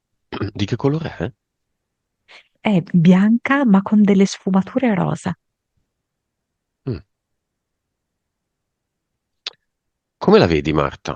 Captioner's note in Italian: schiarire la voce